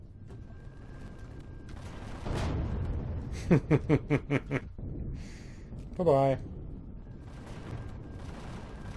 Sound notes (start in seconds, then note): 1.6 turrets firing; 1.9 laughs